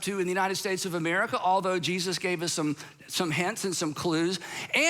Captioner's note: none